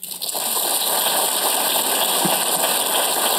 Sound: applause

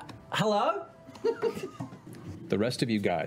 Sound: laughing

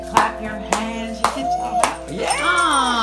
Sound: parrot whoops

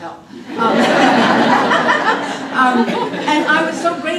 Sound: laughter

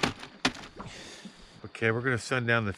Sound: plastic bag rustling

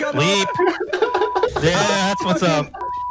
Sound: players laughing; beep

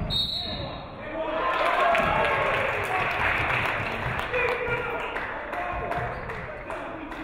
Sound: referee whistles; audience cheering; audience clapping

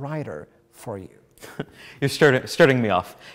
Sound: laughs

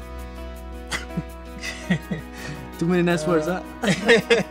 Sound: both laughing

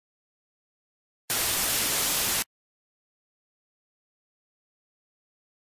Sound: static

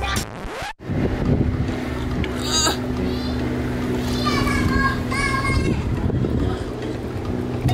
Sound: record scratches; shouting; grunting awkwardly

